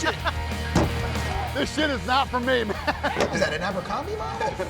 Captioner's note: laughs